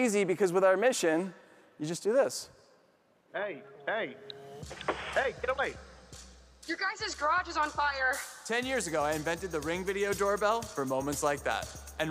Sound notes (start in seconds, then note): 4.0 inspirational music; 5.1 wood taps loudly